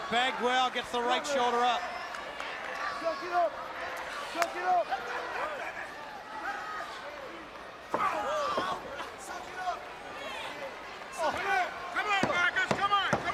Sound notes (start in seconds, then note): 2.9 crowd chatter